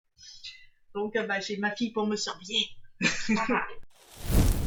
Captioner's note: laughs